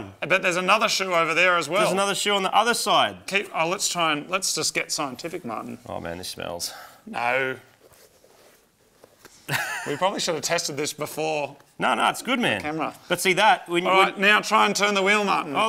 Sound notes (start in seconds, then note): 9.5 laughs